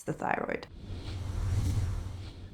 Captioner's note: whooshing